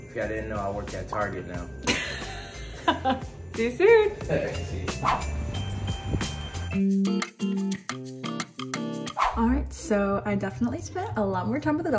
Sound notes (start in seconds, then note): 2.8 laughs; 6.8 upbeat music